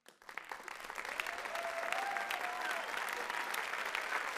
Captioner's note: audience applauds